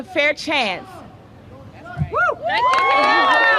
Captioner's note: applause